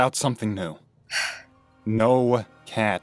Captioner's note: Bluestar sighs